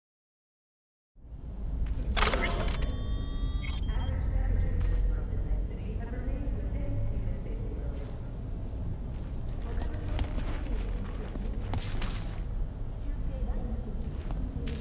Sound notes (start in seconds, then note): 0.1 doorbell rings; 3.6 footsteps